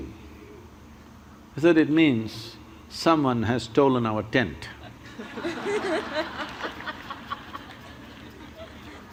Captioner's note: laughter